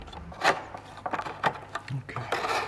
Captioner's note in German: Schabende Laute